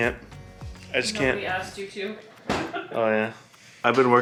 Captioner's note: laughs